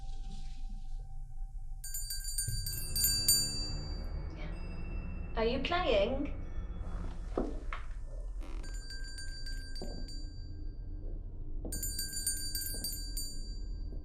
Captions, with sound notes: [Bell rings] Are you playing? [Numerous bells ring]